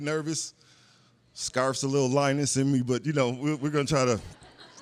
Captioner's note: laughter